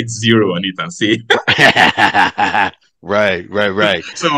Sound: both laugh

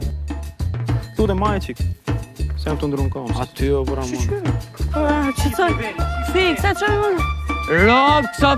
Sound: chattering

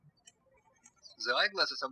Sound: birds chirping

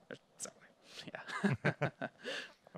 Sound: chuckling

